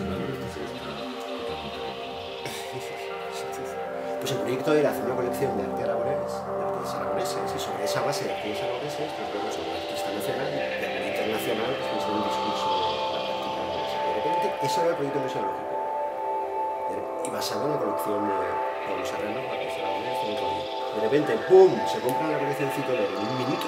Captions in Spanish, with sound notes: - Lo que pasa es que esta totalmente arrinconada. (Risas) - Pues el proyecto era hacer una colección de arte aragonés, de artistas aragoneses… - Y sobre esa base de artistas aragoneses... pues bueno, algún artista nacional... - ...y algún internacional que estuviese en el discurso de la práctica aragonesa. - Y de repente.. Ese era el proyecto museológico. - Y basado en la colección de Pablo Serrano: artista aragonés y todo el rollo. - Y de repente.…¡¡¡Buuum!!! Se compran la colección Citoler en un minuto,...